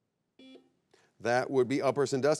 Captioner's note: buzzer beeps